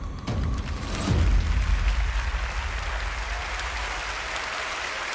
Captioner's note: applause